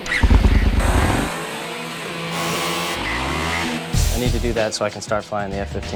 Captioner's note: upbeat music; motorbike engine roaring